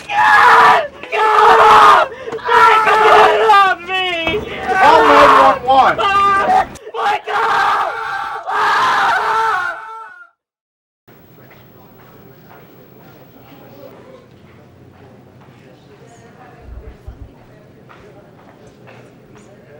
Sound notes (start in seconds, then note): 0.0 screams; 8.5 screaming; 11.2 chatter